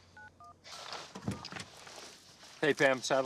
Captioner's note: door open close